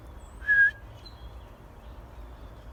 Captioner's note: another whistle